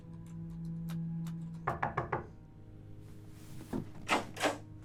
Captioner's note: knocking on door